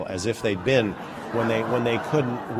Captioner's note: laughter